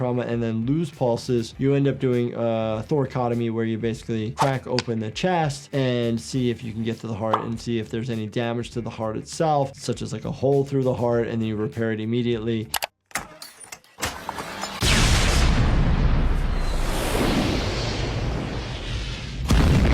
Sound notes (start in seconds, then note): 13.1 metal clanking; 14.8 explosion; 17.4 fire burning